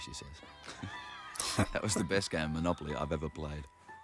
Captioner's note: chuckling